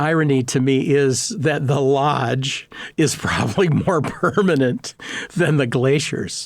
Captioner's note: laughing